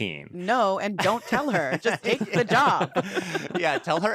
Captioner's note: laugh